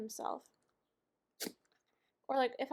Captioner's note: dog sneeze